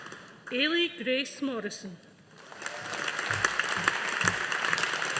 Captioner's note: audience applauding